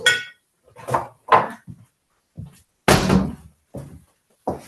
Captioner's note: clatter off camera